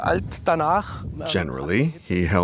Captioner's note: German spoken audio